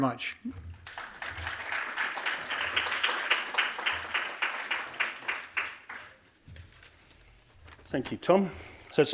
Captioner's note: applause